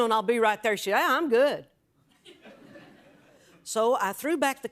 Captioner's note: light laughter